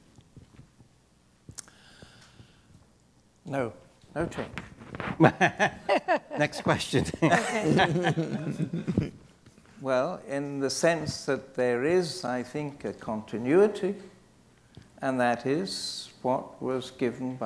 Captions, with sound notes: - Oh, okay. (laughing) - Next question. - Well, in the sense that there is, I think, a continuity, and that is what was given a continuity, and that is what was given